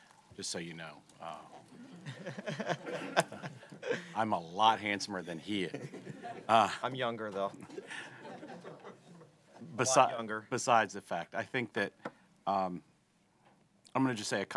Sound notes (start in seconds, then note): 1.8 laughter